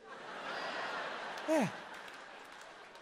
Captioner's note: crowd laughing